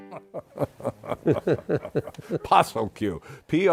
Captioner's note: both laughing